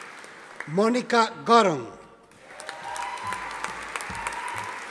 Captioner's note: audience applauding